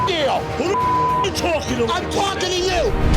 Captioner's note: beep